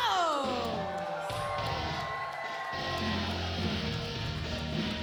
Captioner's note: audience cheering